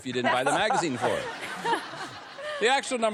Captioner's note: laughter